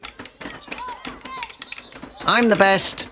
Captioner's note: shouting and sticks banging